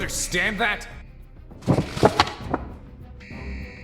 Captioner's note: shuffling